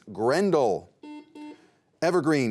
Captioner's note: beep